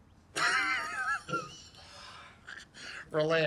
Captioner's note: laughing